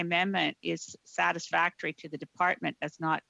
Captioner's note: speaking FRENCH